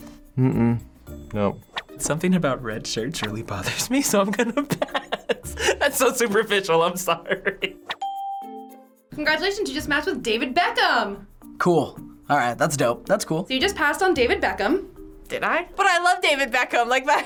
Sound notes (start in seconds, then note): 8.0 ding; 17.0 laughing